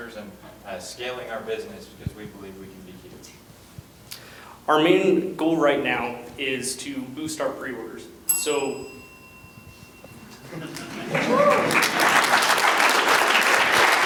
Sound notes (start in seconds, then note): 8.2 bell rings; 10.6 applause